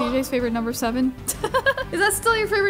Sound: laughs

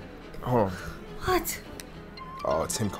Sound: phone ringing

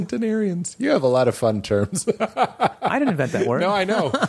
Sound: laughs

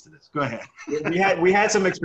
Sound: laughs

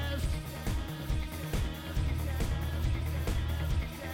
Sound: echoing

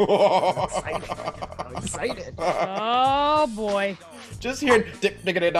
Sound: laugh

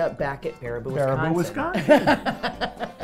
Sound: laughing; voiceover

